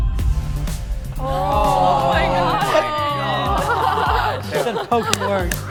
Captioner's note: students groaning